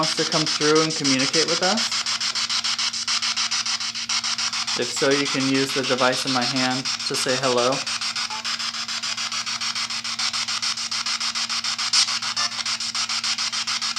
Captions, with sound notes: and communicate with us? If so, you can use the device in my hand to say hello. (jumping static)